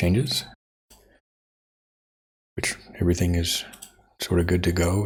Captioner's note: silence